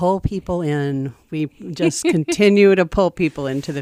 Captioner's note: laughs